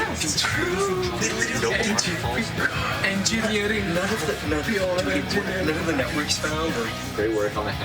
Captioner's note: team cheers